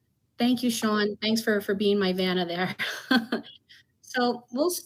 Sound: laughs

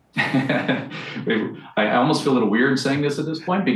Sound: laughs

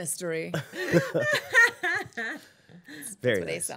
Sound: laughing

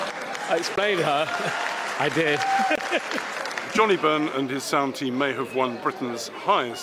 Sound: laughter; applause

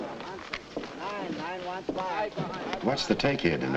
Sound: men chattering

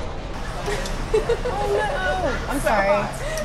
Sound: laughing

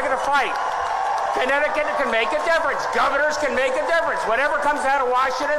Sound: audience cheering

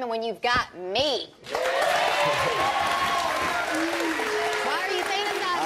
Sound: audience cheers and applauds

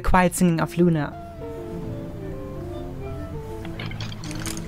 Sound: humming

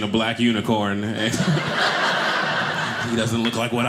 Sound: audience laughing

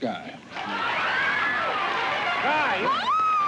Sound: cheering

